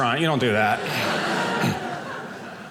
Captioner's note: audience laughing